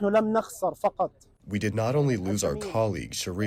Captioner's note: through translator